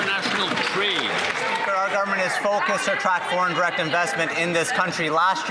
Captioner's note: some Applause